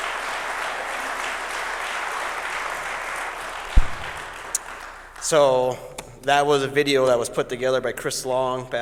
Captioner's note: applause